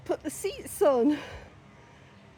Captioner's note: none